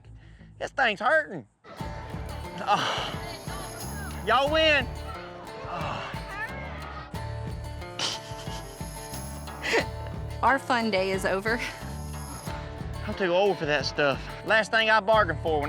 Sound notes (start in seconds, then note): 2.5 grunts; 7.8 chuckles